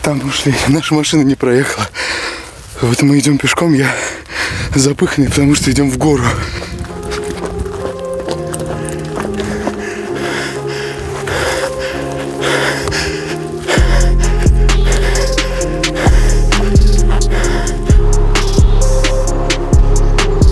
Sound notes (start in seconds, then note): 6.6 heavy breathing; 6.6 troubling music